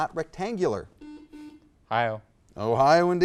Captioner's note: buzzer beeps